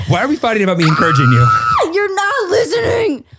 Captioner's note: screams